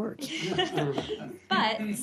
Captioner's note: laughter